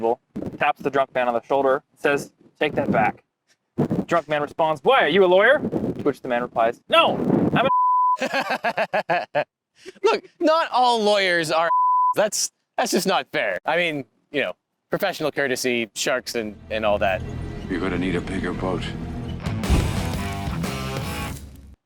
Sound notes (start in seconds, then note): 7.6 beep; 8.1 laughs; 11.6 beep; 18.4 cool rock music